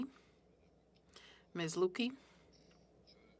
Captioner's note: speaking French